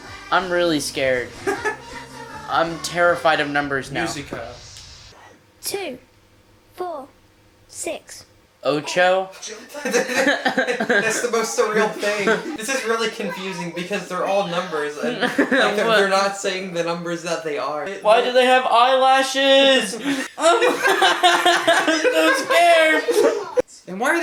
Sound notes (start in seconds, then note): 4.0 laughs; 9.4 laughing; 20.0 terrified laughter